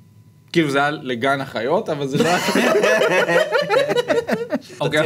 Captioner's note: laughs